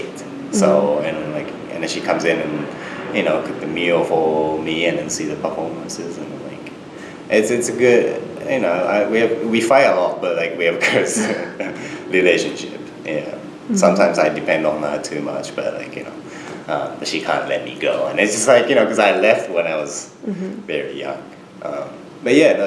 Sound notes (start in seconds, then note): 10.8 laughs